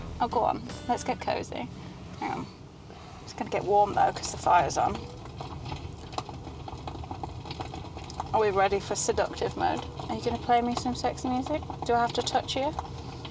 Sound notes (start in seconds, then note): 5.2 fire crackling